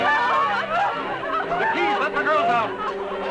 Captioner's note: chatter